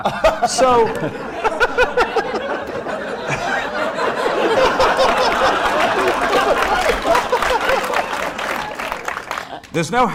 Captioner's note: laughter